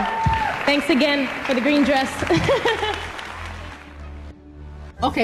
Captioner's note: laughs